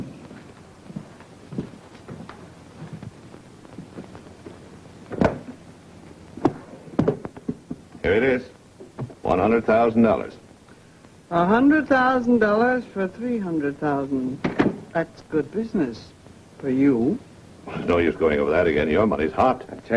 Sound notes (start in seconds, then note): 0.0 footsteps falling; 5.4 luggage clanging